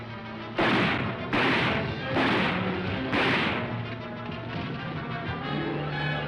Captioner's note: gunshots